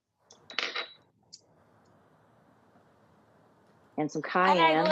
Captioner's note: dishes clattering